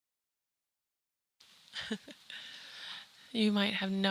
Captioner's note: chuckles